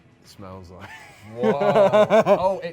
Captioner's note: laughs